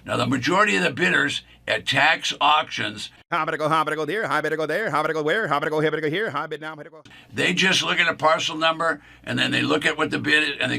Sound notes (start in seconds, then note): 3.3 auctioneer speaking